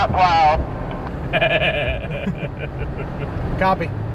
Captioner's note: laughing